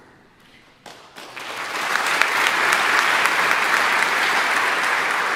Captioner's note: audience applauding